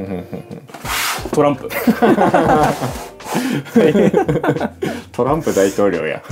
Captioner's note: laughs